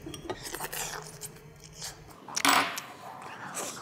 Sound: slurping; utensil scraping

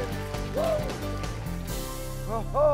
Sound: upbeat music; audience claps

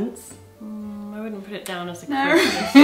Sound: laughing

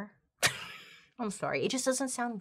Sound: laughs

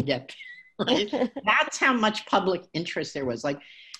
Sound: chuckling

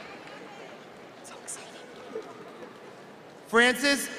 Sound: whispering

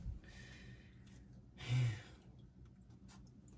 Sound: sigh

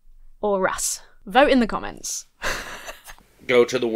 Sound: laughs

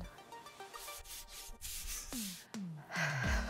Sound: screen scratching; exhaling

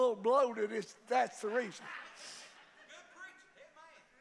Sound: congregation laughs

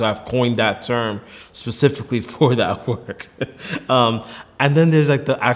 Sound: laughs

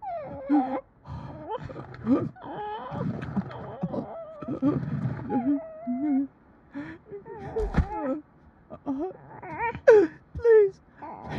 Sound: shallow breaths, incoherent mumbling

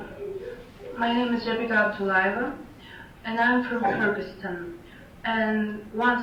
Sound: faintly speaking; faintly speaking

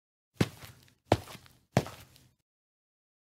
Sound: footsteps

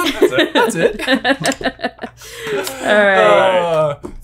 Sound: laughing

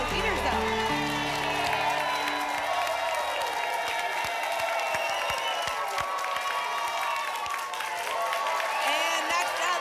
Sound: applause and cheering

